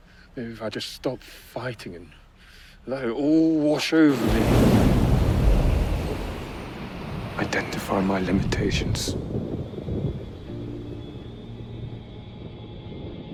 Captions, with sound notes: Maybe if I just stop fighting and let it all wash over me. (waves crashing) Identify my limitations. (dramatic music)